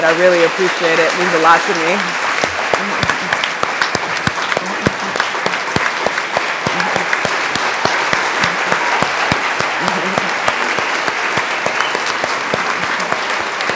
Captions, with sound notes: I really appreciate it. Means a lot to me. (audience applauds)